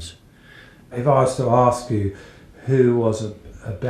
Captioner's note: voiceover